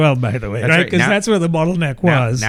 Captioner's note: uh